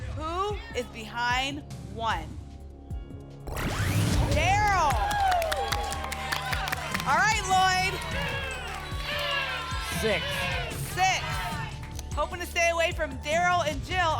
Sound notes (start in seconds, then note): 5.3 applause and cheering; 8.5 audience shouting numbers